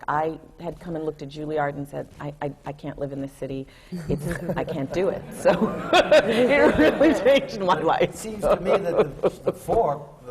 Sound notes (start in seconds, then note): 4.1 laughter; 6.8 laughs